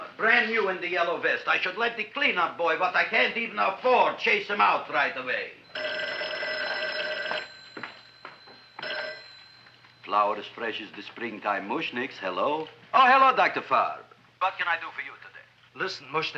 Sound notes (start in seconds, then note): 5.6 phone ringing; 6.0 feet thumping